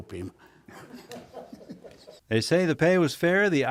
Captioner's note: people laughing